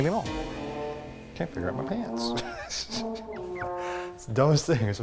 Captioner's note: laughs